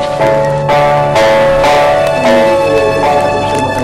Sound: Artemio cooing

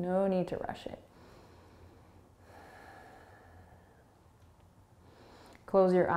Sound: breathing

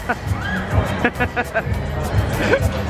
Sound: laughing

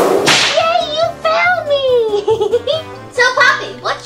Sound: giggles

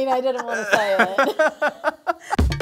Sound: laughs

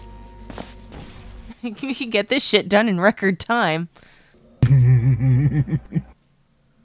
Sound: laughs

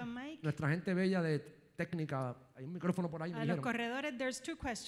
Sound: speaking in foreign language

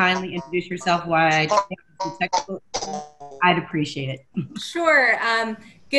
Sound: audio glitch

